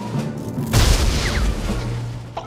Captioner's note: snow thuds